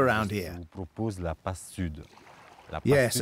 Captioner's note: speaking French